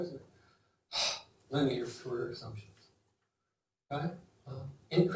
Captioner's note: sighs